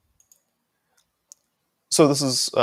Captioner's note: mouse clicking